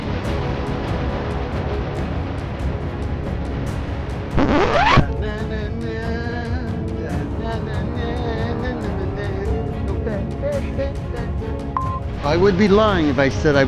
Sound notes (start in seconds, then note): 0.1 suspenseful dramatic music; 4.3 record scratching; 5.3 hums melancholic tune; 11.7 electronic beeping